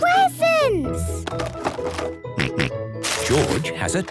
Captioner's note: rattling; snorting